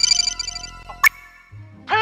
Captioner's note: phone rings; click